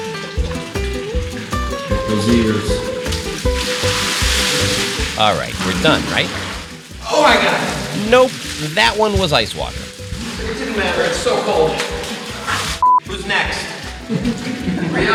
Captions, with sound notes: (bright orchestral music) (bright orchestral music) (water sloshing) - Alright, we're done, right? Oh my God! Nope, that one was ice water. It didn't matter, it's so cold. (beep) Who's next?